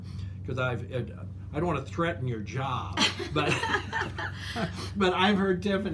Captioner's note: laughs